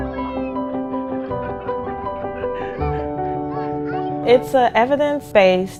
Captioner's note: laughing